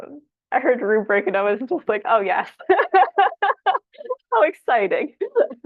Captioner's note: laughs